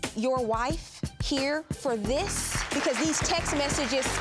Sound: audience applauding

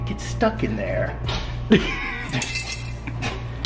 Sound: laughter; rattling

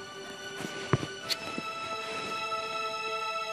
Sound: kisses

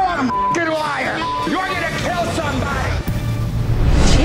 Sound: beeps; transition whooshes

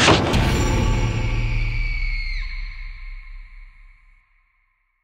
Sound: dramatic music; Amanda screaming

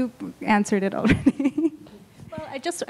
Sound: laughs

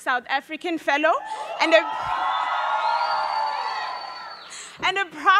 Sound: audience cheering

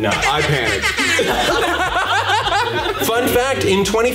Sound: all laughing loudly

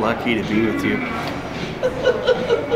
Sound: laughter

